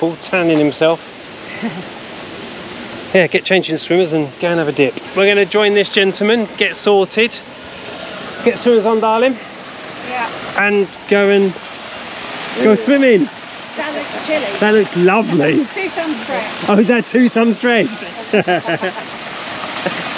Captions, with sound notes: We've got a local, tanning himself. Yeah get changed into some swimmers and go and have a dip. We're going to join this gentleman, get sorted, get swimmers on darling. Yeah, and go and go swimming. That looks chilly. That looks lovely. Two thumbs fresh. Oh is that two thumbs fresh..?? [Laughter]